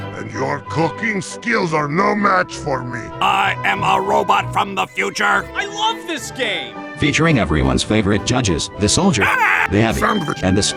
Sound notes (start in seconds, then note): 9.2 american noises